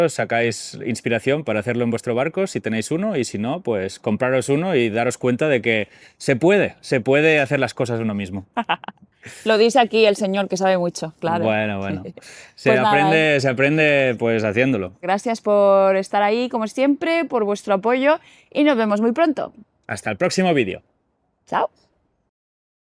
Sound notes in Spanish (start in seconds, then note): 8.5 risas